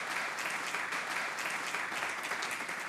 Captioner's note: audience applauds